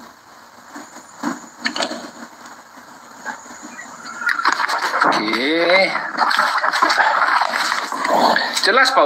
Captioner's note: laughs